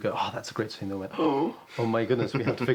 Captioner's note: gasps